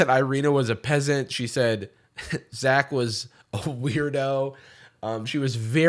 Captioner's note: scoffs